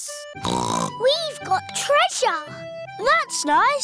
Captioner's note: snorts